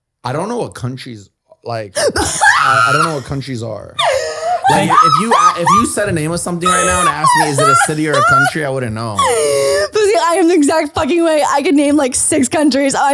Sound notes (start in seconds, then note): 4.0 laughs